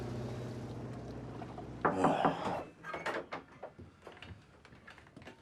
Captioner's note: la porte s'ouvre en grinçant